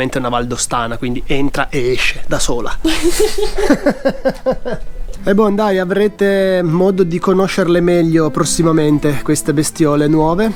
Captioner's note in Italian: risate